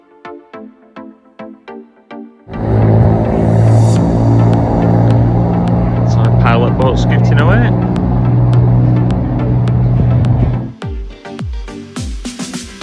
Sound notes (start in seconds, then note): 2.7 engine noise